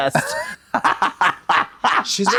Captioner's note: Trixie clucks